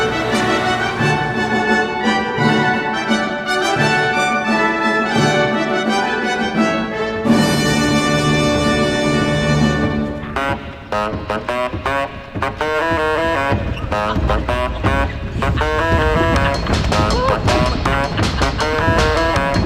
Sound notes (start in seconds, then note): 0.0 motorbike engine roaring; 10.5 foot pedals whirring; 10.5 playful music; 14.3 chuckling